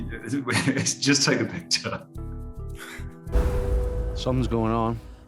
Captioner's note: laughing